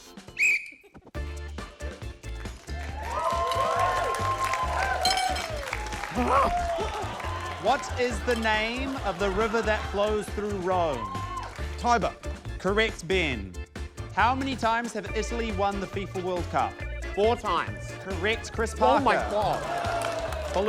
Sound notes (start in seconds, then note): 0.3 whistle trills; 4.9 fork clatters, groans